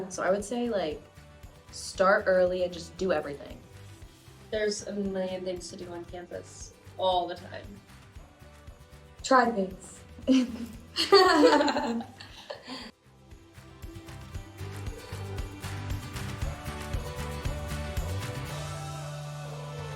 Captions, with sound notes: - So I would say, like, start early, and just do everything. - There's a million things to do on campus all the time. - Try things. (students laughing) (bright music continues)